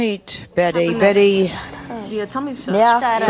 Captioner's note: overlapping chatter